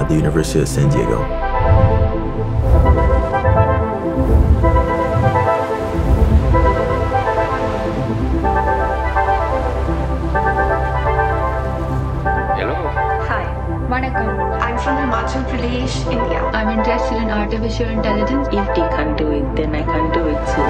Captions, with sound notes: the University of San Diego. (gentle ethereal music) (waves crashing) - Hello. - Hi. - Vaṇakkam. - I'm from Himachal Pradesh, India. - I'm interested in artificial intelligence. - If they can do it, then I can do it too.